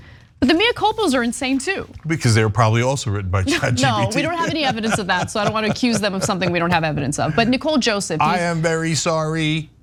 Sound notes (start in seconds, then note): 3.5 laugh